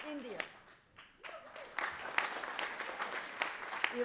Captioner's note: applause